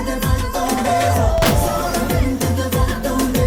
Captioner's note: gunshot